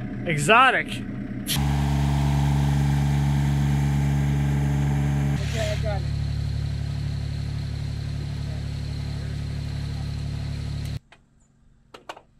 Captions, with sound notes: Exotic! (engine humming) - Okay. I got it.